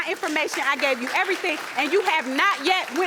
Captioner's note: audience applauding